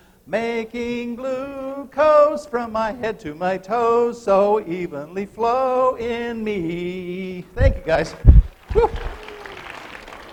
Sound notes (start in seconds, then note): 8.5 applause